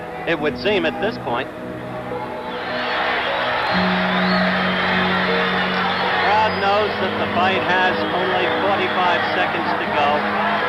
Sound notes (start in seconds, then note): 2.0 crowd cheering; 10.4 gentle music